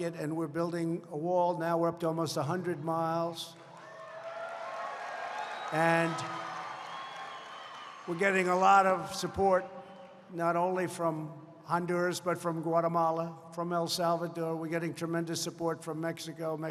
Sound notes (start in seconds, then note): 3.4 applause